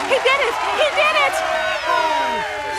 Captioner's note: cheering